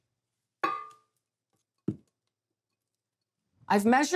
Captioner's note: bowl clinking